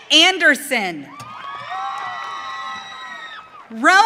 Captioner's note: audience cheering